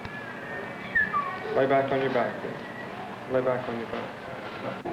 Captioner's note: whistles